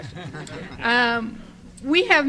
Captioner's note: audience laughter